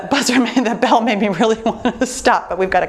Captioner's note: laughs